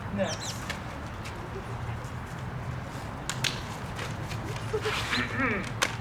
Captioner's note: rustling papers